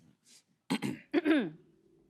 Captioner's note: both clear throat